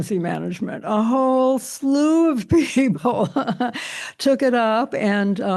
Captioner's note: chuckles